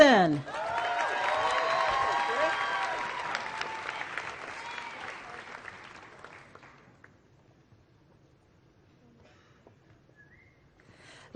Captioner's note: applause